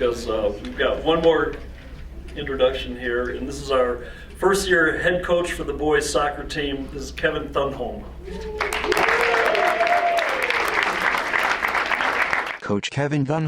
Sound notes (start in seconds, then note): 8.4 crowd applauds